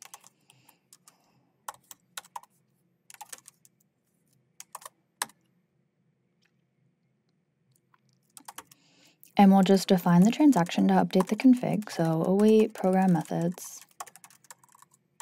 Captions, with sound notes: (keyboard clacking continues) And we will just define the transaction to update the config. So, await program.methods.updateConfig.